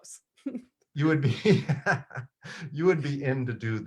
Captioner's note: laughs